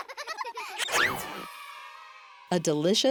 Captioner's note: children laughing; children cheering